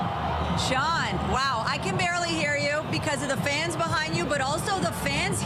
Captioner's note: applause